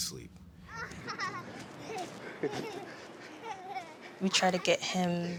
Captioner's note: laughing